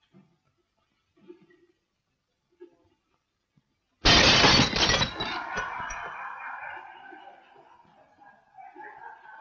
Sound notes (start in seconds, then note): 4.0 glass shattering; 5.0 workers laughing